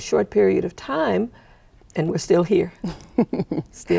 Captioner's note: chuckling